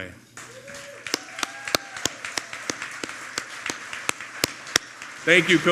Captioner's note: applause